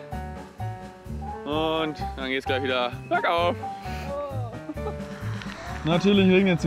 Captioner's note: laughs